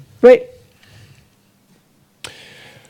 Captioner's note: audience member speaks in French